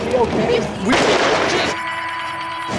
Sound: explosion; beep

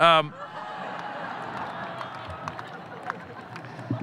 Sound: audience laughing

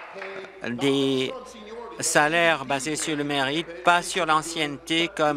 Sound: applause

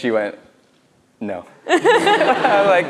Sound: laughs

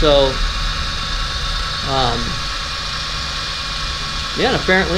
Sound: machine whirring

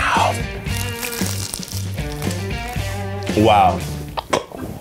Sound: chicken crunches

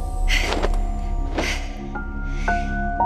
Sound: gasp rising

